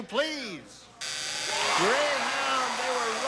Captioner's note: audience shouting